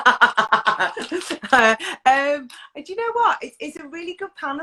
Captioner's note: laughs